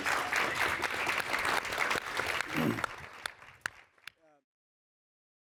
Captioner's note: applause